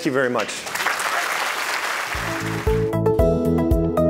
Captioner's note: audience applauding; bright digital music